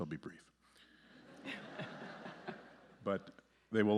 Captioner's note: audience laughing